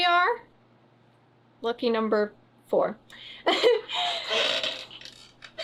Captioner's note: laughs